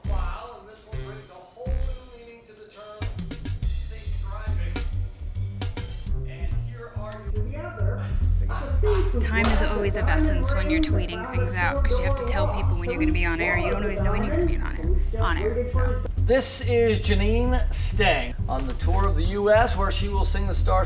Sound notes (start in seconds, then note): 0.3 TV station sounds